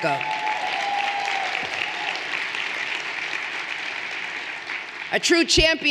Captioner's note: everyone cheering and applauding